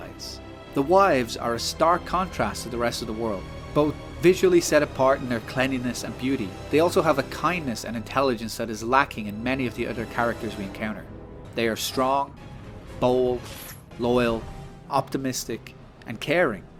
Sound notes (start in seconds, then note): none